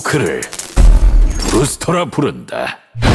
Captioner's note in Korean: 폭발